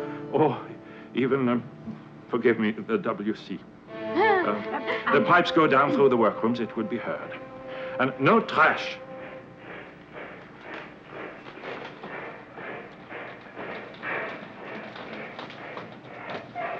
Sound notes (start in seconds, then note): 4.2 Anne giggling; 9.8 loud marching